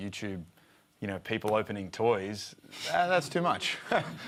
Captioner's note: laughs